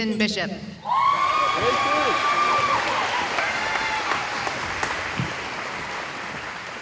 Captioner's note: cheering